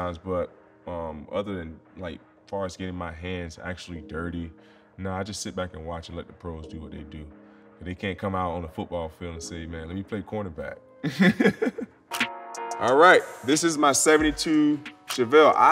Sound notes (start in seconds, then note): 11.0 laughing